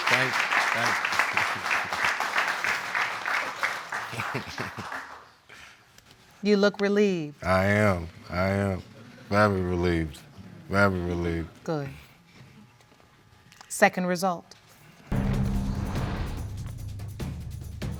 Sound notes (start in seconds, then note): 4.0 chuckles